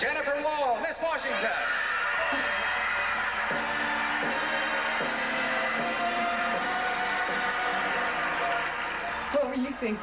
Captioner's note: cheering